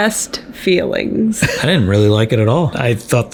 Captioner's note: chuckles